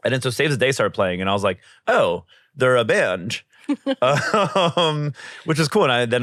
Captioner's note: laughs